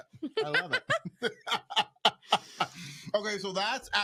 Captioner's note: both laughing